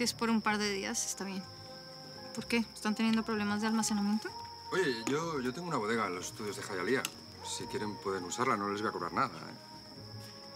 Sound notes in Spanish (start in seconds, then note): none